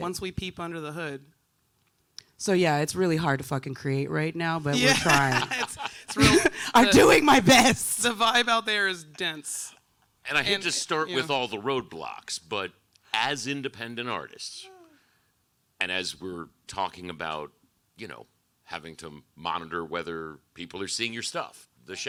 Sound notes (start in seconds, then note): 4.7 laughs